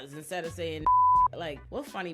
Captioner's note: beep